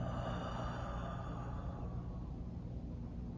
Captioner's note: exhales